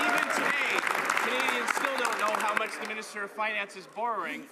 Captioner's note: some Applause